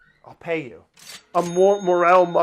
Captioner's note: cash register chiming